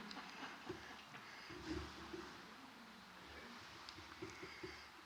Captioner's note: laughter